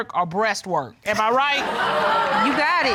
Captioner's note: audience laughs